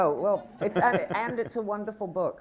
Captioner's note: laughter